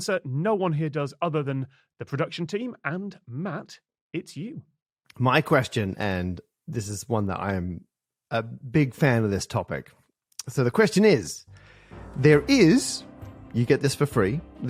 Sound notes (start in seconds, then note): none